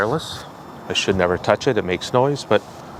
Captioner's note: shuffling